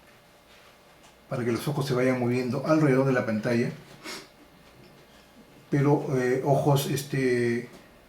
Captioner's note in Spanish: resoplido